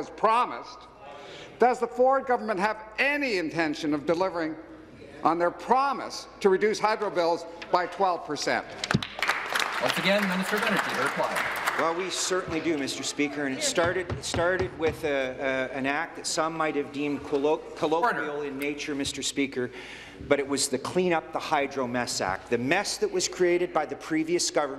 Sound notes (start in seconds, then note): 12.3 applause